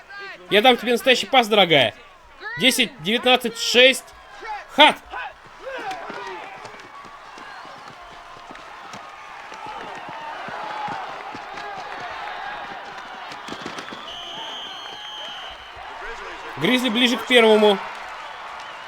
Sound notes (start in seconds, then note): 6.0 crowd cheering; 13.4 whistle blows